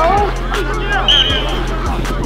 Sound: whistle

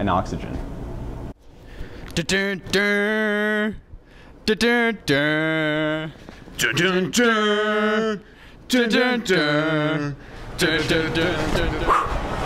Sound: humming

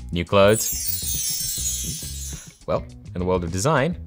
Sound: bells chime

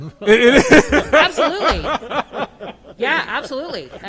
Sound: laughs

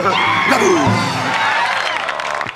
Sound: applause

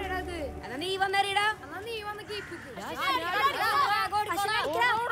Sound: children playing

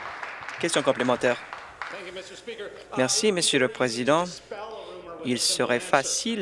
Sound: applause

